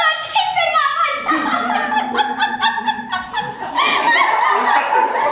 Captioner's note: laughs; audience laughs